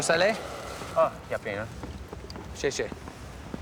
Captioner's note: speaking Mandarin